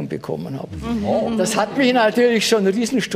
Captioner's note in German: Anerkennende Laute